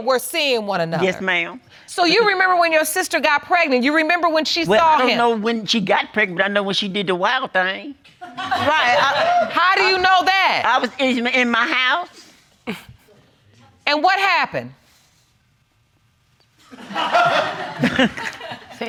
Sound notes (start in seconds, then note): 8.6 audience whooping; 16.7 audience laughing